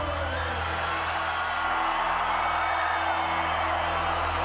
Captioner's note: audience cheers